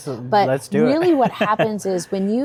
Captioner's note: chuckles